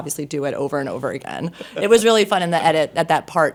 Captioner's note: laughing